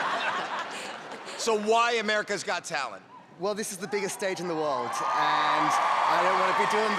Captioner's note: cheering